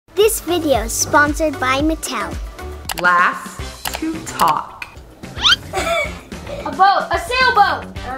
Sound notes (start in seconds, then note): 3.0 clicking; 5.4 laughs